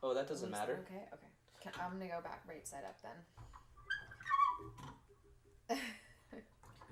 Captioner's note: vise squeaks